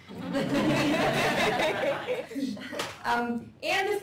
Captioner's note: laughter